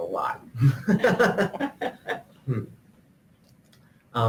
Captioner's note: laughing